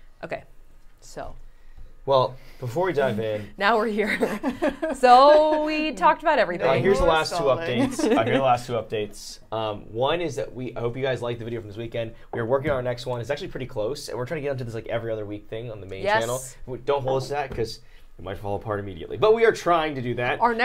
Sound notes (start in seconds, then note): 3.8 laughing